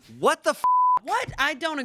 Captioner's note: beep